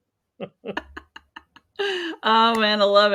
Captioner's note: laughing